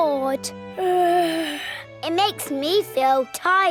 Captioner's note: yawns